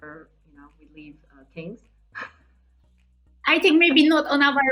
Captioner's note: laughing